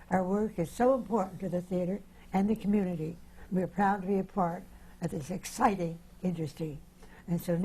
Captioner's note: none